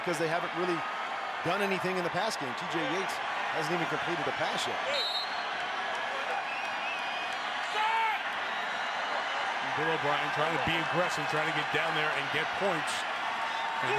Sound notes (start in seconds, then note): 5.5 cheering